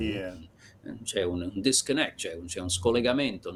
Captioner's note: speaking Italian